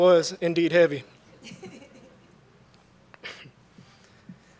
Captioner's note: laughter